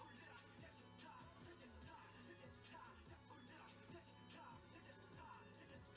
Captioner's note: none